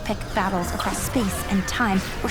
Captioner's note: conformistines clamor